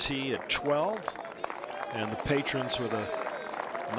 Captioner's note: applause